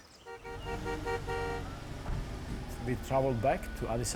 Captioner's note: honking